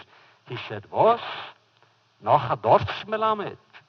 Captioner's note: foreign language